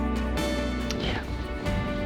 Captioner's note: whispering